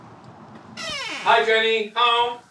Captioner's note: door creaking